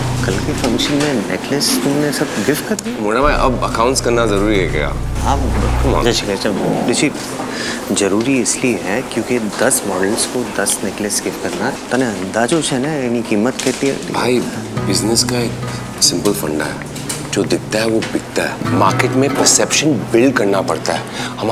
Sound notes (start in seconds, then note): 7.3 Anuj inhales